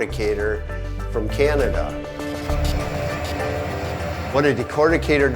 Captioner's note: machine whirring